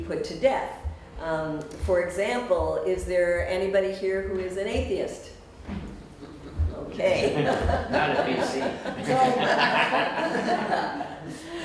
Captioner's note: audience -"not at BC" laughter